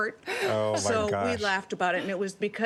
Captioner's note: laughter